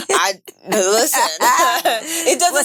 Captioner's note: women laughing